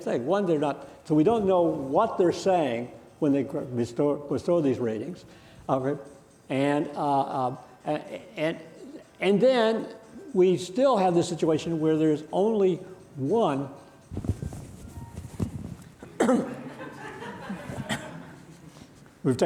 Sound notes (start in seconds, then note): 14.5 phone ringing; 16.4 audience laughing